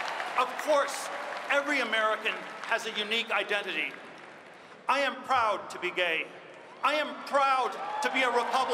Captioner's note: cheers and applause